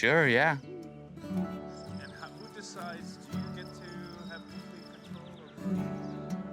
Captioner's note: crickets chirping